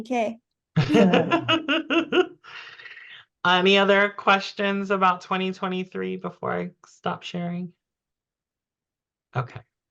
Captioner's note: laughs